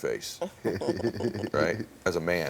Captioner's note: laugh